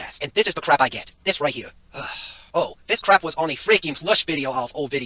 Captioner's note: sigh